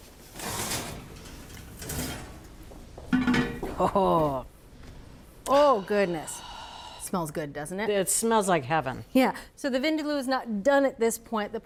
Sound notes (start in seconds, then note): 0.4 rack rattles; 3.1 pot clanks